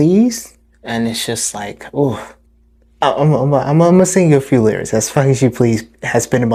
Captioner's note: exhale